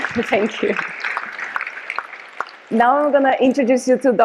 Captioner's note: audience applause